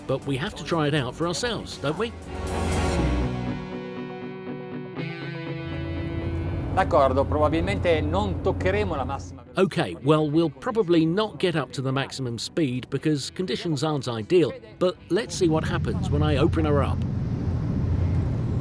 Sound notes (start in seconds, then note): 3.4 light music; 7.2 speaking foreign language